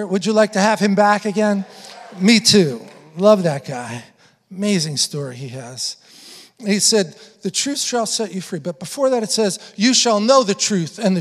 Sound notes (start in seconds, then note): 1.9 congregation affirming